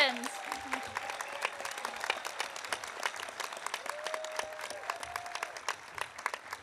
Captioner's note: audience cheering; audience applauding